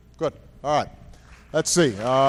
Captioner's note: applause